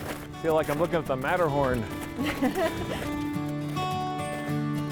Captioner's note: laughing